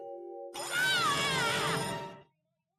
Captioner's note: screaming